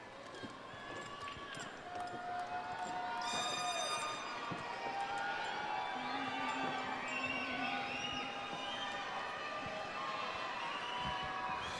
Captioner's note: cheering and applause